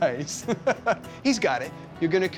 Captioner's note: chuckling